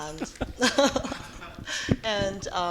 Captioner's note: laughing